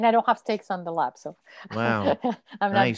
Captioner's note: laughs